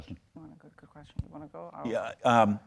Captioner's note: speaking faintly